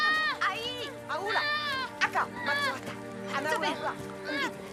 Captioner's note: foreign spoken audio